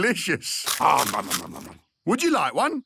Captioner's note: crunching